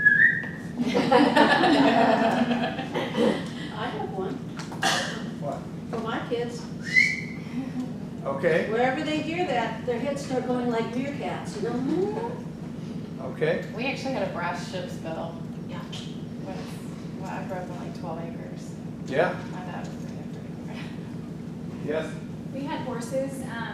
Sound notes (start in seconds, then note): 0.0 participant whistles; 0.8 group laughs; 6.8 whistles